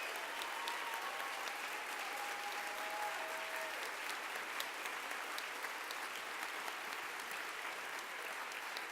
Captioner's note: applause